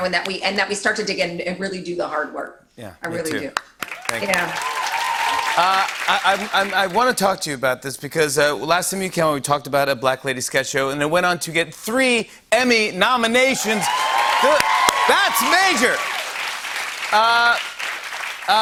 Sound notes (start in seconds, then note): 3.8 cheers and applause; 13.4 cheers and applause